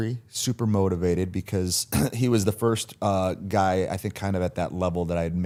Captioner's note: clears throat